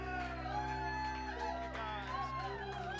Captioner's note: audience cheering